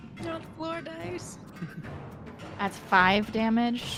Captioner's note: Cornette laughs